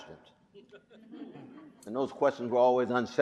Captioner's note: audience chuckling